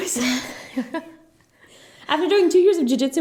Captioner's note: both laugh